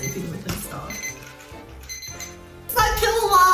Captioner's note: alarm beeping